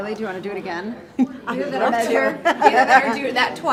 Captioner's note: laughing